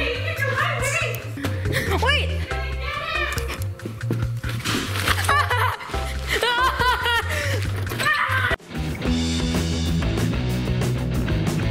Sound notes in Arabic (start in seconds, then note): 5.0 يضحك; 8.7 الموسيقى متفائلا